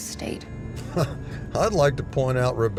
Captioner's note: laughter